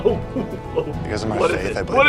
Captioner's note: laughing